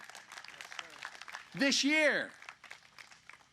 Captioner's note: applause